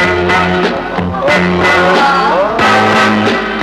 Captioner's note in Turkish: Alaycı hayret ve gülüşmeler